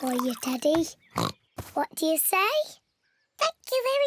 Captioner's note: in squeaky voice; oinks; in normal voice